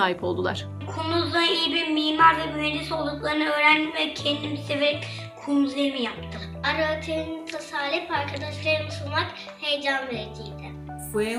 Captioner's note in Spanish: Turkish